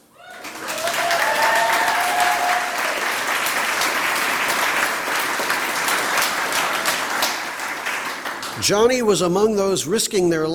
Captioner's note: applause